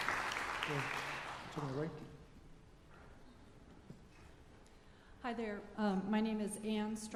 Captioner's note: applause